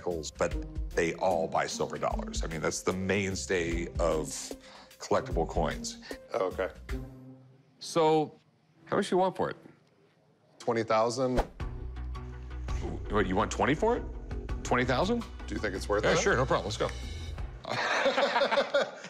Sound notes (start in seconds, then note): 17.6 laughter